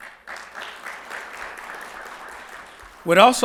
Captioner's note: audience applauding